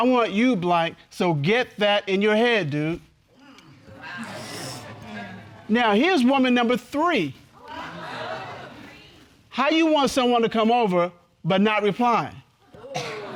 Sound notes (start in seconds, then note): 3.9 audience exclaims, laughs; 8.0 audience exclaims